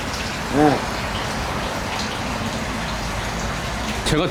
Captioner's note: pat, pat